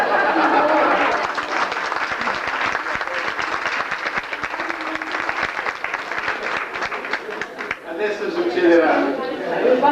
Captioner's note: applause